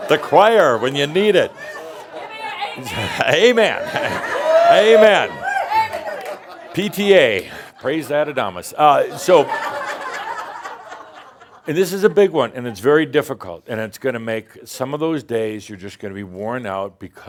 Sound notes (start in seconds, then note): 0.0 more laughter; 1.6 someone shouts, “Give me an Amen!”; 9.1 more laughter